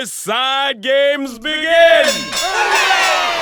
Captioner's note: cheering